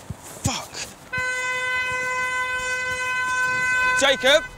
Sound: car horn blares

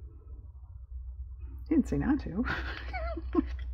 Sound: laughs

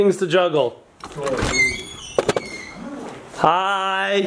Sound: door creaks open

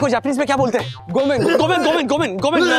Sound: speaks Japanese

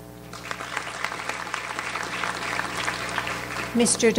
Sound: audience applauds

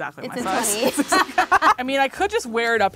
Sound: both laughing

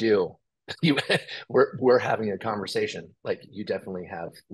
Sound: chuckles

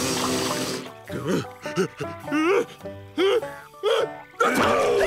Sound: sneezing

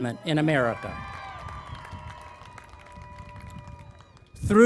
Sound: cheering and Applause

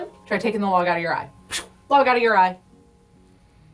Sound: makes whooshing sound

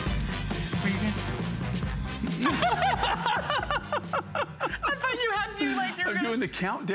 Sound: laughter

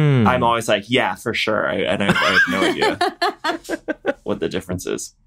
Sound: laughter

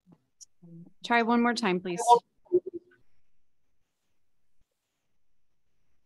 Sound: attendees chattering

